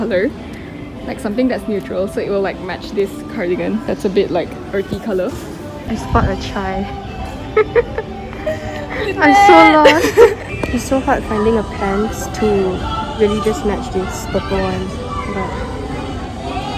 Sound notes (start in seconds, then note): 7.2 laughing